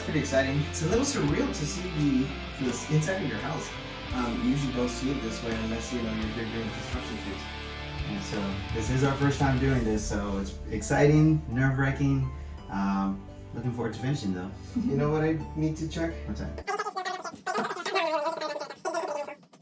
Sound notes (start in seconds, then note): 17.3 fast talking